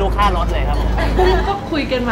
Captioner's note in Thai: เสียงหัวเราะ